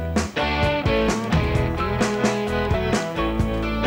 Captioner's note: phone rings